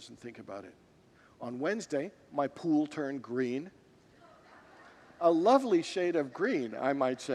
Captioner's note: congregants laugh